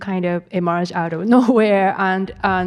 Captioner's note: attendee chuckling